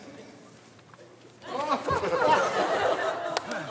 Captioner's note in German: Lachen